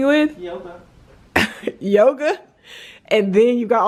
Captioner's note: laughing